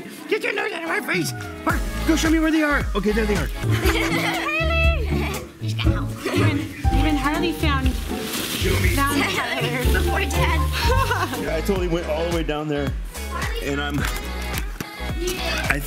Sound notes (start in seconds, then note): 3.6 kids laugh; 3.7 laughs; 10.6 laughs